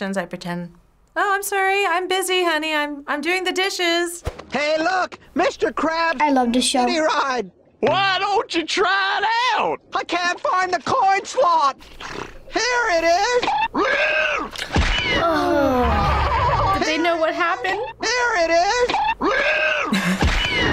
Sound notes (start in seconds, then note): 13.2 seahorse screeches; 13.2 boing; 14.7 thud; 15.6 fish 1 yells; 18.8 seahorse screeches; 18.9 boing; 19.8 chuckles